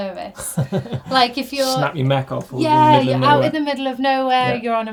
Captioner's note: laughs